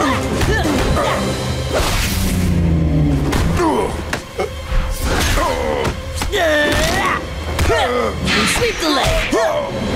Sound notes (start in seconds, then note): 0.0 grunting; 3.4 grunting